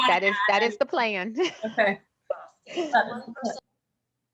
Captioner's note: laughter